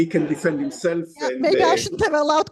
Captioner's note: laughter